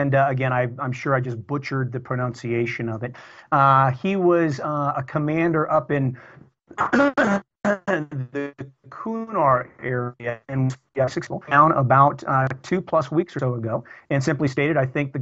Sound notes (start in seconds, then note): 7.6 audio corruption